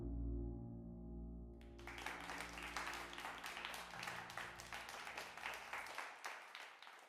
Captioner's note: music ends, applause